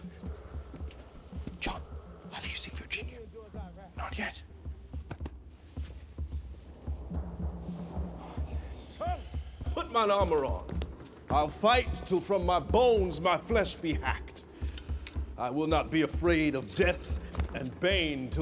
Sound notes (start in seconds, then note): 1.4 whispering